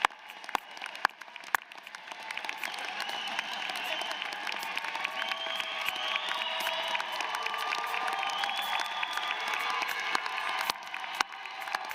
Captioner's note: applause; cheers & applause